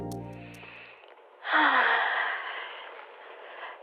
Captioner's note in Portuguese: suspiro profundo